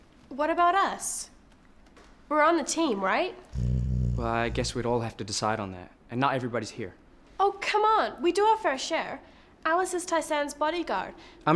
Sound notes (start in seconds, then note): 3.5 snoring